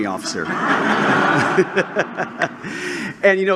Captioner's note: laughter